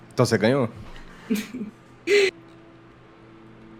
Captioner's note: giggles